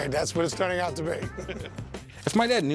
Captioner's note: laughter